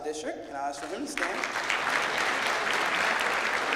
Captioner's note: clapping